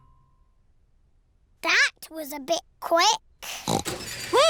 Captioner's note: oinks